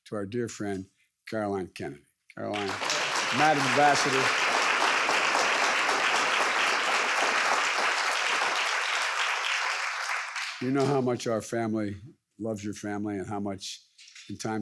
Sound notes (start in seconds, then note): 5.4 audience applauding